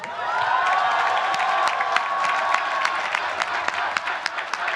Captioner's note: applause